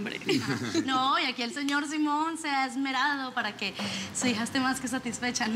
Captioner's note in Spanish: Risas